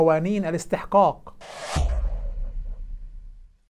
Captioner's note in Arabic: مُؤَثِّرَات صَوْتِيَّة